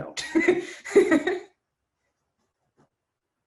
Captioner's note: laughs